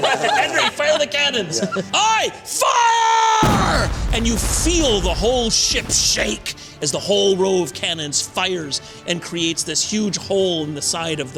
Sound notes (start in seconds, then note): 0.0 laughter; 3.4 boom